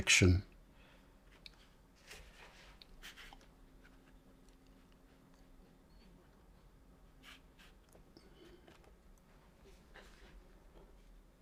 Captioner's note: silence